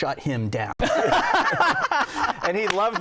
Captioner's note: laughter